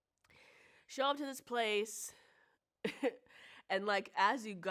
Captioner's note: chuckles